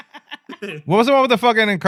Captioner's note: laughing